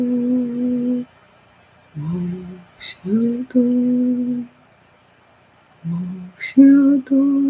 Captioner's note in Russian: Напеваю